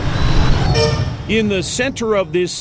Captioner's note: honking